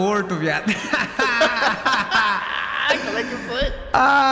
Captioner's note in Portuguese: risos